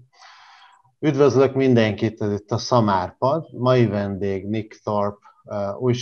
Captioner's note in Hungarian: magyarul